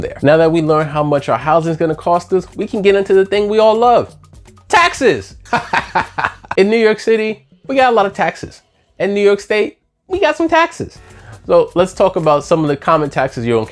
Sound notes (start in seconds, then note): 5.4 laughs